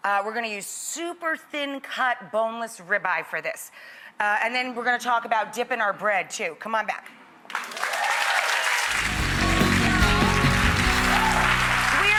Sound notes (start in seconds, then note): 7.5 audience applauds and cheers; 9.0 upbeat rock music; 9.5 audience applauds